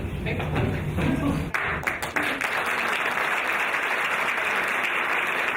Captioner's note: audience applauding